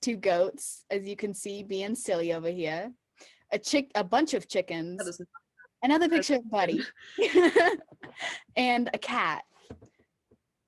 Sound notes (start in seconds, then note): 7.8 chuckle